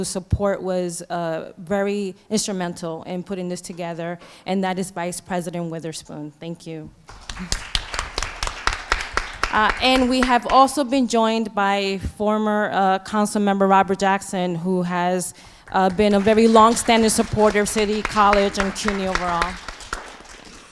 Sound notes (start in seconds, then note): 7.0 applause